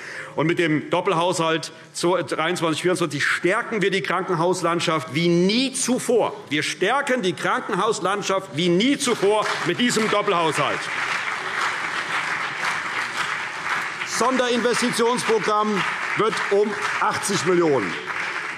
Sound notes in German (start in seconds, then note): 8.9 Beifall CDU und BÜNDNIS 90/DIE GRÜNEN